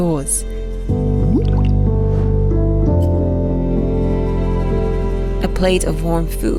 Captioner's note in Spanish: música suave; líquido burbujeante